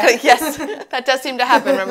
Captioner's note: laughs